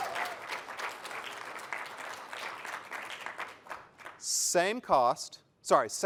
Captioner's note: applause